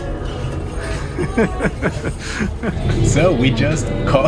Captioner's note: laughs